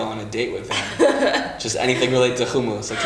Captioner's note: laughing